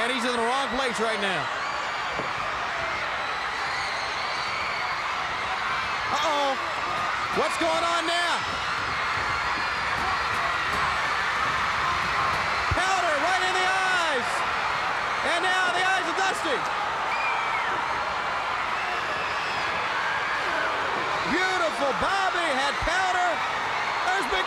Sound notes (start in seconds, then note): 17.5 audience clamoring